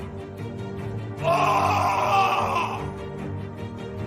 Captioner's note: shouting